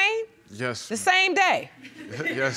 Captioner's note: audience chuckling